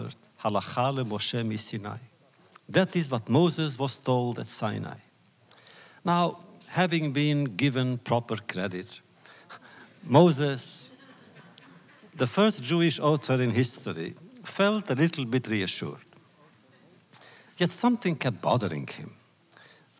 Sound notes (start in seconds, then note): 10.7 laughter; 10.8 laughs